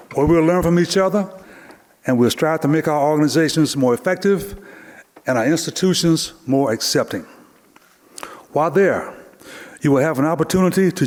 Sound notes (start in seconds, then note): none